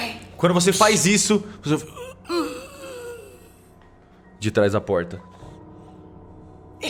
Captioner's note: zombie moaning